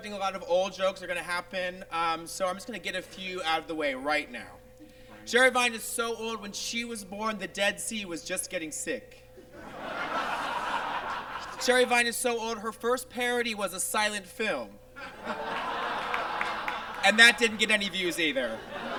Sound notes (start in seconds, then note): 9.4 audience laughs; 15.0 audience laughs